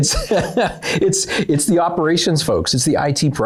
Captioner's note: laughs